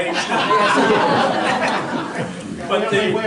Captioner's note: audience laughter